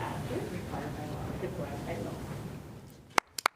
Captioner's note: applause